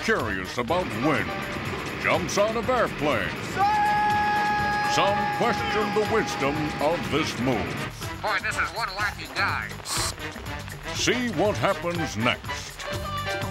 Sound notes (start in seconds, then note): 3.4 <i> Bill screaming</i>